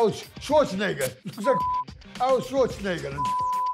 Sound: beep; beep

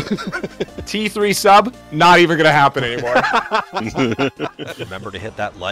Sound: laughter

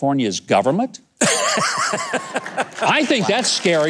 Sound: guest laughing

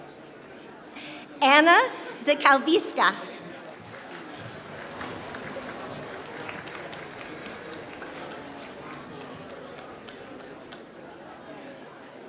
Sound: applause

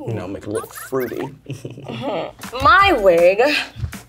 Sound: chuckling

